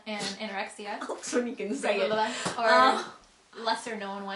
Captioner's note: laughs